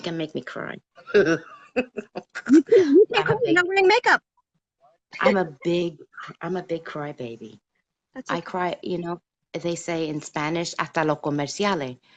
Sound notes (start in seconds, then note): 1.0 laughs; 5.9 laughs; 10.7 speaks Spanish